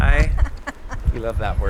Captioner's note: laughs